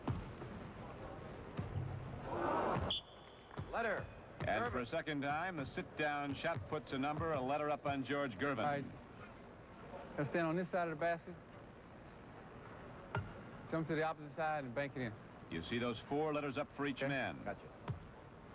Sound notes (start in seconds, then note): 2.8 whistle blows